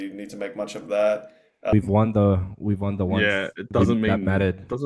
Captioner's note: laughs